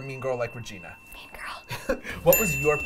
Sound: bell dings

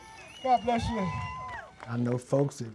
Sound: audience cheers

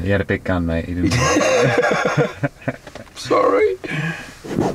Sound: hearty laughing

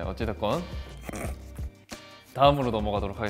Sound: chuckles; speaks Korean

